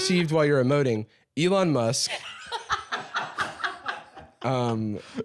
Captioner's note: laughing